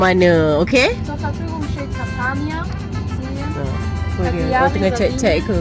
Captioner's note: speaking German